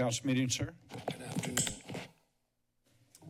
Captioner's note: mic adjusting